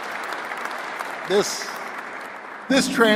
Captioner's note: applause